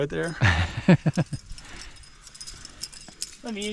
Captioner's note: laughing